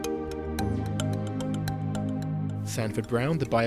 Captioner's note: voiceover